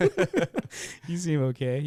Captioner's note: laughing